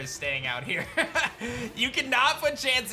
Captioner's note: laughs